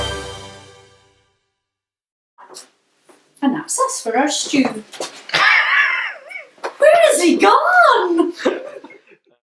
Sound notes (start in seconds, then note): 5.4 the film crew laugh